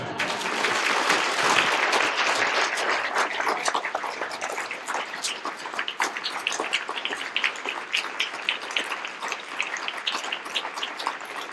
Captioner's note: applause